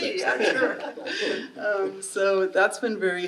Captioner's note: audience laughing